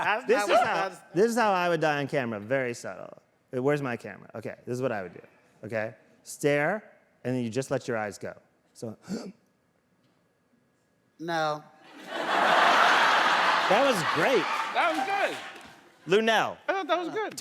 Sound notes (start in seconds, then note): 9.1 inhales deeply; 11.9 audience laughs